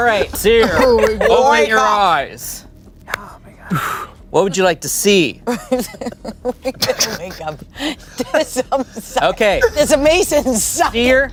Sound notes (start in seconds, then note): 0.0 everyone laughs; 5.4 laughs